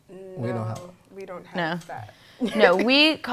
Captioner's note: laughter